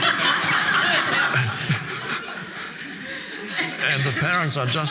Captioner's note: audience laughing